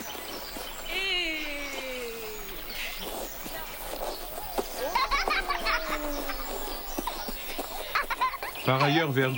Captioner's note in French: Encouragements, rires